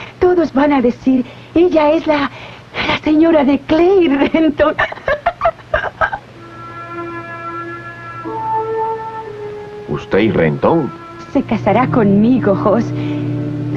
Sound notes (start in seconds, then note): 4.1 giggling